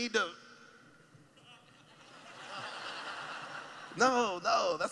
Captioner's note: laughing